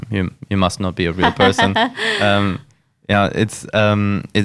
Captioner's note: laughs